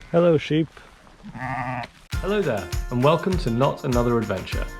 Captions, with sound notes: Hello Sheep *Sheep Baas* Hello there, and welcome to Not Another Adventure